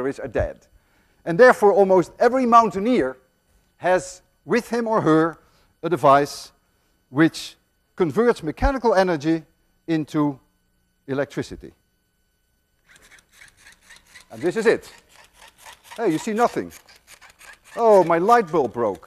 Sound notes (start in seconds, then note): 12.8 device ratcheting